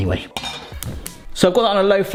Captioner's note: burner clicking